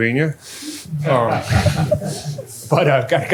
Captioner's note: laughter